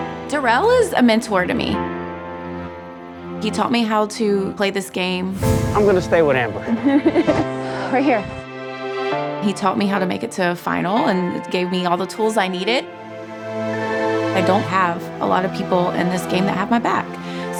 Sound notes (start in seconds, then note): 0.0 calm music; 6.6 laughs